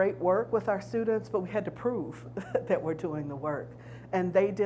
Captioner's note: chuckles